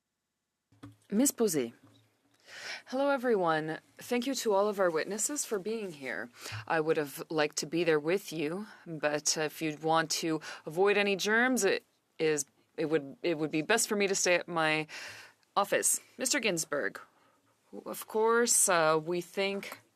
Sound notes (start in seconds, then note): 3.9 speaking French